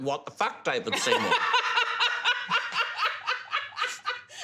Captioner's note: laughs